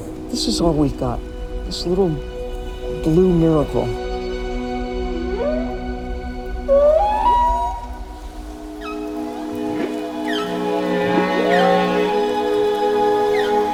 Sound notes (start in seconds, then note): 6.6 whale calling; 8.2 ethereal music